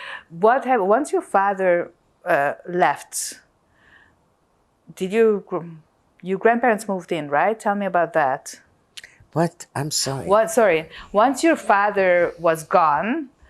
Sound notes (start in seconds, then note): none